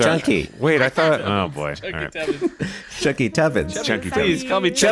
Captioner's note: laughing